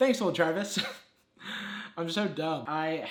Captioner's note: chuckles